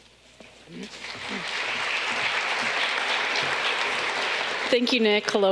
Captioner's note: audience clapping